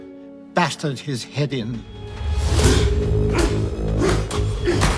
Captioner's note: grunting